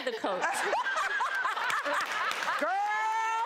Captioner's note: audience laughs